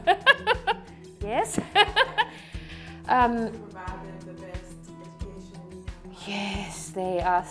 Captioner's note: laughs